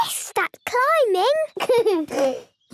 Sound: giggles

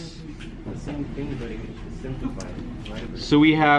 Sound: students murmuring

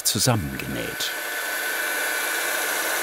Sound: whirring

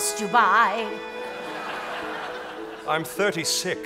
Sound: audience laughing

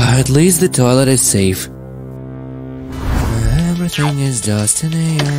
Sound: hums

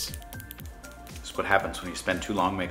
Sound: S Pen clicks

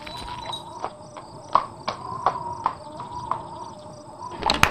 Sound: horse clopping

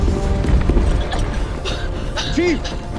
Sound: tense music; coughing

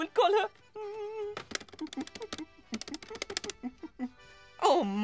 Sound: humming

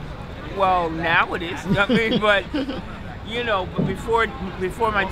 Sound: laughs

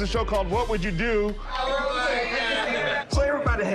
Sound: laughter

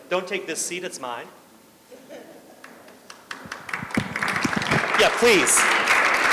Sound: applause

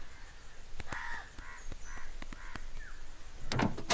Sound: crows cawing; engine starts

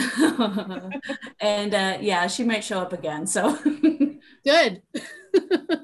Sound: laughing; laughing

